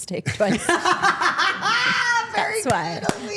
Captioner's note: Steph laughing